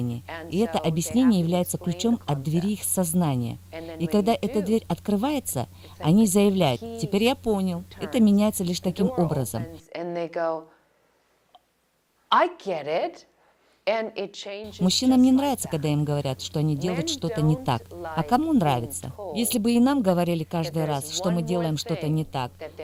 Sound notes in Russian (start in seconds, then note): 9.7 Разговаривают на английском